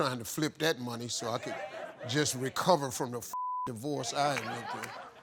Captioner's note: beep